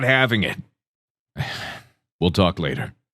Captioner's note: sighs